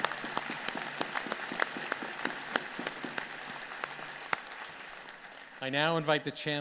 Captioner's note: applause